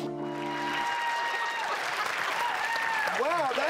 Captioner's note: clapping